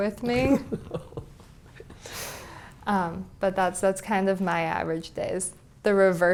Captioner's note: laugh